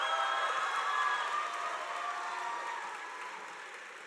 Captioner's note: crowd cheering